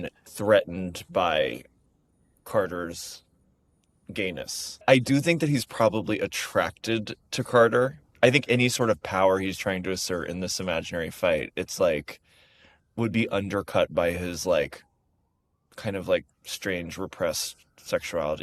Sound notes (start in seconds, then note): none